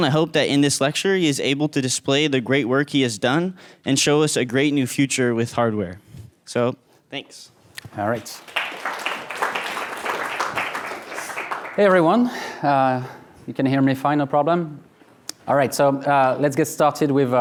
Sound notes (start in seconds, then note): 8.1 audience applauding